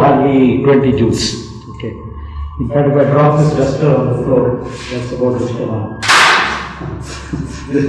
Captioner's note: sound of duster hitting the floor